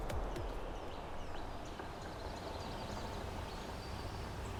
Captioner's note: birds sing